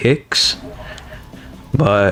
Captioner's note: inhales Oxygen